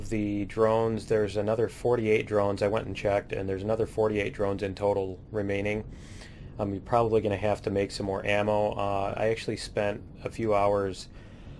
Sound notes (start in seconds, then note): none